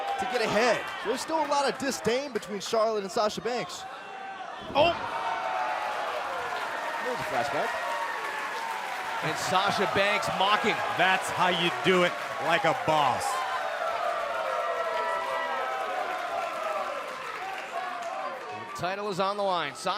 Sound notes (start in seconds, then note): 15.5 cheers & applause